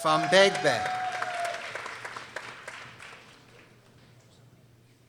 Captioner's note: people applauding